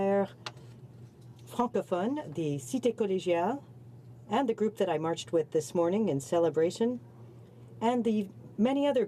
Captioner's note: speaking French